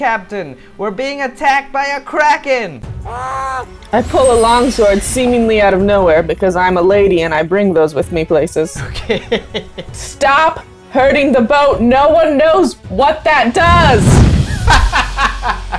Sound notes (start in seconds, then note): 3.0 screams; 14.4 laughter